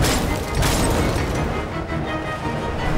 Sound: none

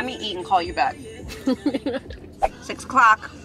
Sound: camerawoman laughing

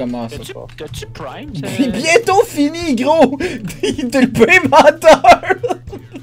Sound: laughs

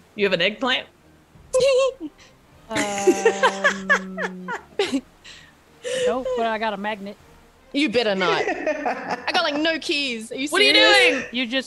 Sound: laugh

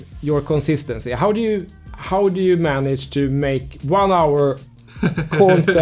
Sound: laughing

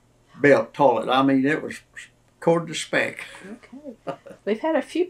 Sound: laughs

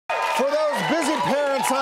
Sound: cheering audience

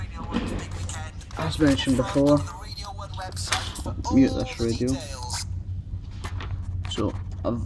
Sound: radio off

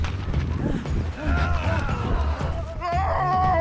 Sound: flag flaps; man pants; man yells

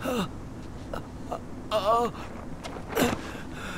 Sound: maoning in pain

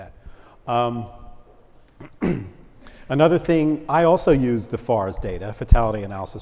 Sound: cough

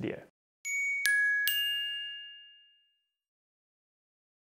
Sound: chimes ring

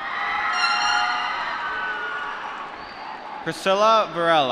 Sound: applause

